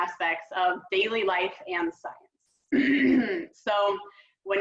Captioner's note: clears throat